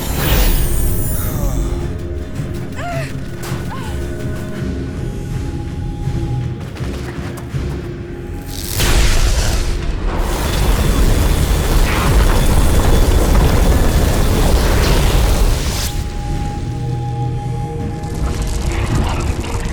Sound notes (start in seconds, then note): 0.0 eye whooshing; 2.8 Nadia grunting; 9.0 eye firing; 10.2 fire roaring; 15.2 explosions booming; 16.8 dramatic music